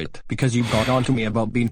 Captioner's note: sighing